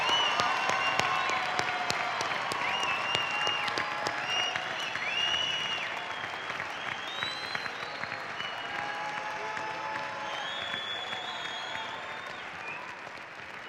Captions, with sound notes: DEGREE RECIPIENTS PLEASE RISE. [ CHEERING AND APPLAUSE ]